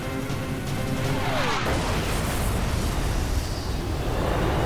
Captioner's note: explosion